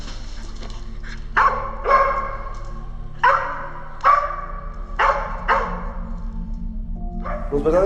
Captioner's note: dog barks